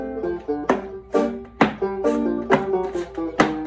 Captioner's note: heels clicking